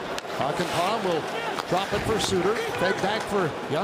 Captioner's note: booing